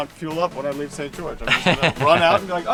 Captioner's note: laughing